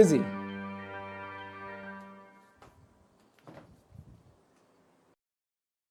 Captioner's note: sound of wind